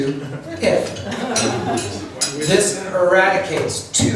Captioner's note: laughs